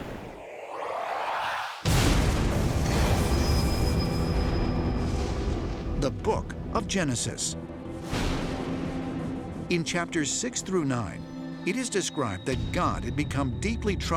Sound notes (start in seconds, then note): 1.8 thunder crashing